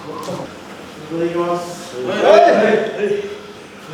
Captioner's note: centipede sliding feet